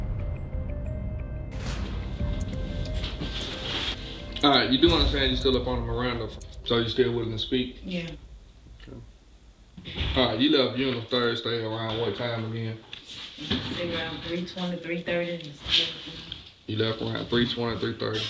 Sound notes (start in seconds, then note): 1.6 clock ticking